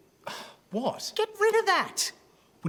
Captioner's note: scoffs